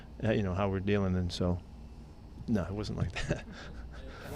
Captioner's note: chuckling